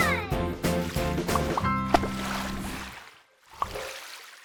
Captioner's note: splashing